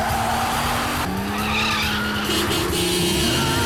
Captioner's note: tires screeching; car horn honks